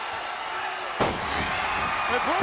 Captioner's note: Macho Man thuds